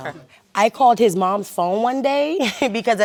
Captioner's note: laughs